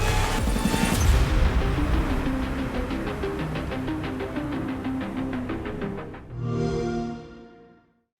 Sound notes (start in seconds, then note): 6.3 xbox sound